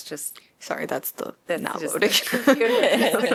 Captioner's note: laughter